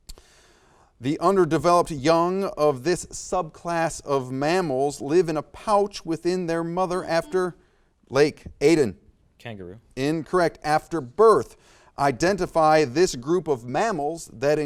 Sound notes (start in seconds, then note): 7.3 buzzer beeps beeps